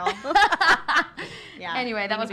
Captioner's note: everyone laughs